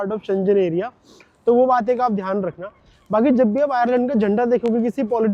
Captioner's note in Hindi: नाक से की जाने वाली आवाज़